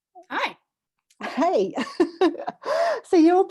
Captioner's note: laughs